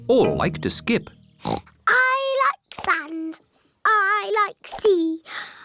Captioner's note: oinks